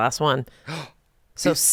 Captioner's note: gasps